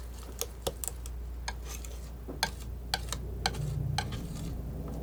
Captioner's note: tapping